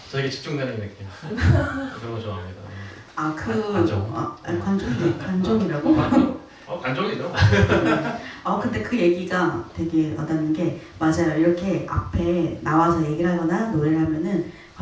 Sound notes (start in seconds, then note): 1.3 laughs; 8.5 laughs